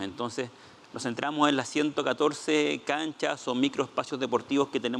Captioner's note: speaking Spanish